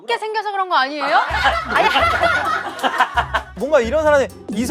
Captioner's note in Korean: 웃음